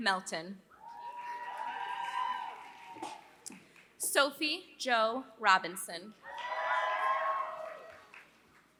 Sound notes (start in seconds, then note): 0.0 applause; 6.3 applause